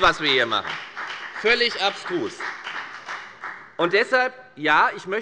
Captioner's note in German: Beifall bei der FDP